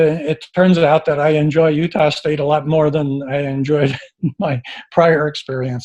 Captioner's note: chuckles